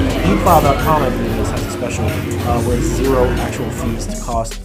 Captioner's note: customers chattering over each other